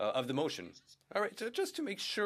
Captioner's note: speaking French